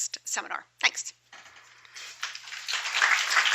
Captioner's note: applause